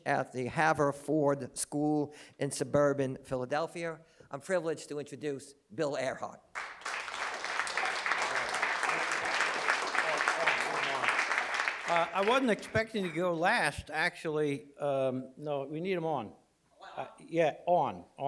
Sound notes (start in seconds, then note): 6.5 applause